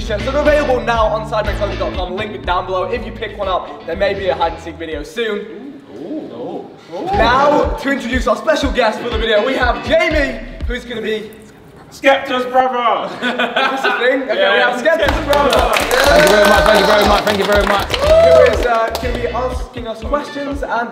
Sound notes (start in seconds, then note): 13.0 group laughs; 15.0 group applauds